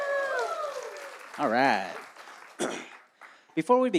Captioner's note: applause